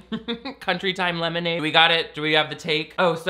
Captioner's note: laughs